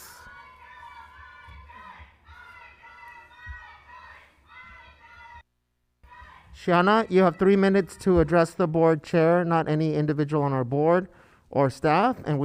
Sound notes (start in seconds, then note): 0.0 protestors interjecting